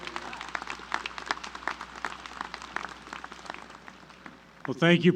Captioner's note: applause